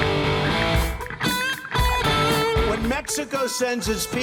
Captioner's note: ticking